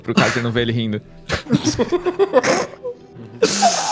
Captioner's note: laughing